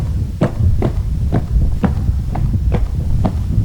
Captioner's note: footsteps